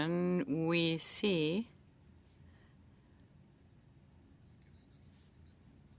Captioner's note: speaking French